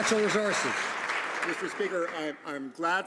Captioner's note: some Applause